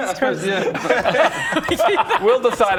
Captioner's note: looking-for-the-line laughter